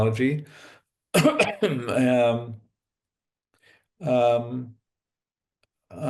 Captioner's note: cough